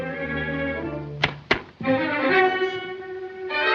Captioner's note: silenced gunshots